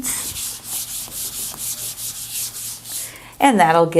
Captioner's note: eraser wiping board